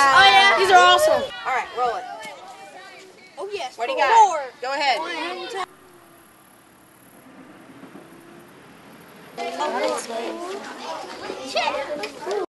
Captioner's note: noises of children having fun